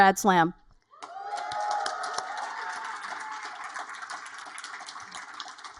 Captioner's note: audience cheer and applaud